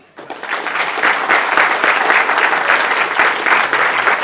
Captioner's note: audience cheering